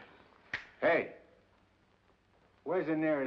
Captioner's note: snaps fingers